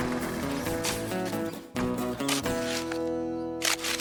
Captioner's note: shovel Scraping